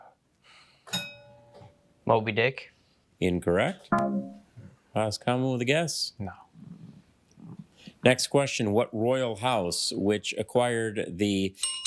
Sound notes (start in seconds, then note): 1.0 bell dings; 3.9 failure chime